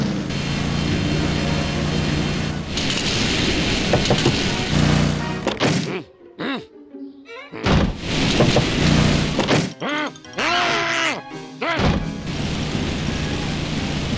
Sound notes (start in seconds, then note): 8.4 knocks; 9.8 grunts; 10.7 duck squeaks